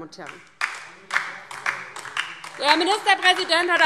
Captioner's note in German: Beifall DIE LINKE